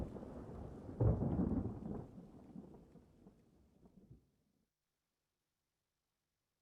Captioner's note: thunder rumbling